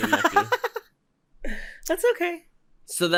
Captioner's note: giggles